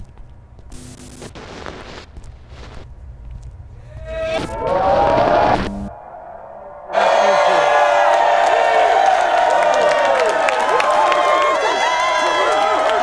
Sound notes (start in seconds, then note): 4.3 crowd cheering